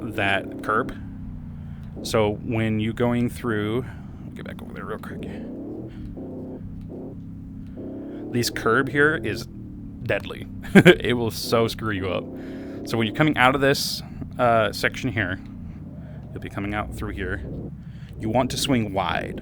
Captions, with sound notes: that curb so when you're going through let me get back over there real quick this curb here is deadly (laugh) it will so screw you up so when you're coming out of this uh section here you'll be coming out through here you want to swing wide